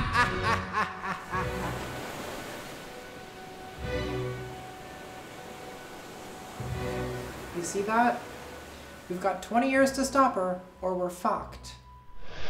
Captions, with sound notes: (waves roaring faintly) - You see that? We've got 20 years to stop her, or we're fucked.